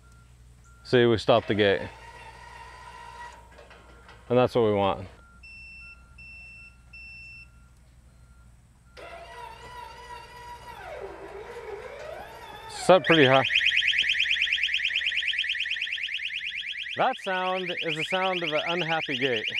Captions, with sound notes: See, we stopped the gate. (gates buzzing) And that's what we want. (operator beeping) (gate buzzing) It's up pretty high. (alarm blaring) That sound is the sound of a unhappy gate.